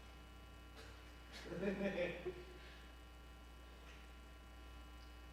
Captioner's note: laughter